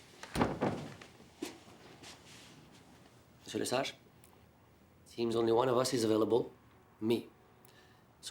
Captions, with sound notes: (door thuds shut) - Monsieur Lesage, seems only one of us is available, me.